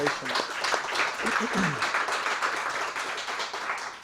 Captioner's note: applause